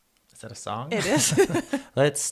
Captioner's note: laughs